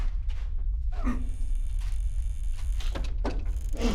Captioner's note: door creaking